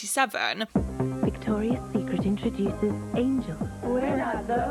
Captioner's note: voiceover